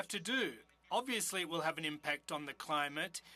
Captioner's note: speaking French